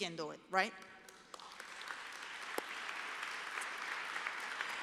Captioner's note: applause